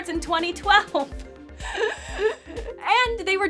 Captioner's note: pained intake of breath